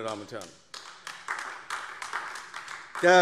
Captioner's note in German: Beifall AfD